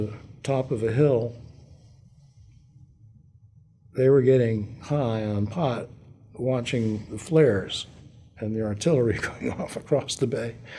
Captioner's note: laughter